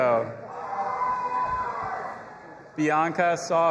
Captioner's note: audience applauding and cheering